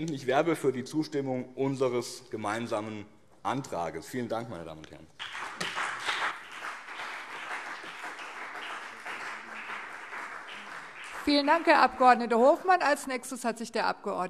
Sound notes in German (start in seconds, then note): 5.2 Beifall BÜNDNIS 90/DIE GRÜNEN und CDU